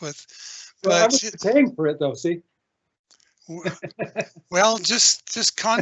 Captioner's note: laughing